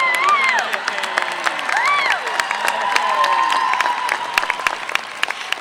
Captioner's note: cheers, Applause